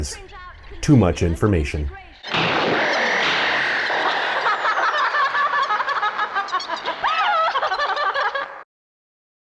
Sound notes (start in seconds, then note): 2.3 explosion; 3.9 laughter